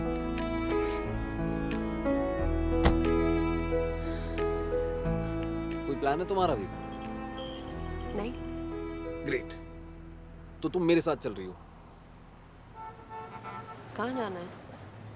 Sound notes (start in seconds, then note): 2.8 car door closes